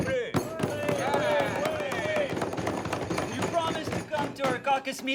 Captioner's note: group shouting